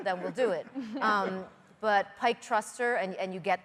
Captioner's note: laughter